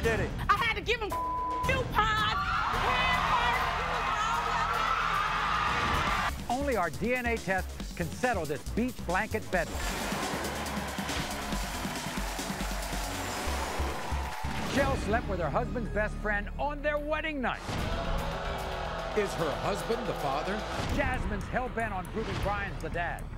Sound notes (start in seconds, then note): 2.1 crowd cheers; 17.6 crowd booing